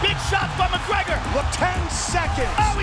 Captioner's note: audience cheering